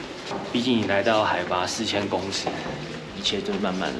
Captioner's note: slip